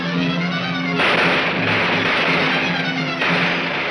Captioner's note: gunshots banging